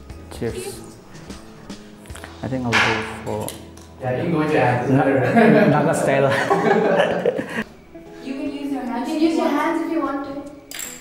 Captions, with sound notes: Cheers! I think I'll go for... Naga style (laughs) You can use your hands if you want to